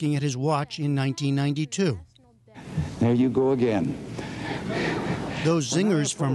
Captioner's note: laughter